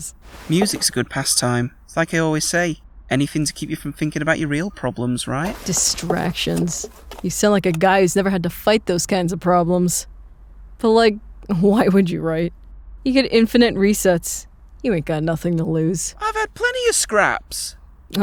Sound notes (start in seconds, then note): none